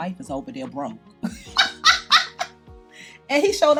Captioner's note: laughs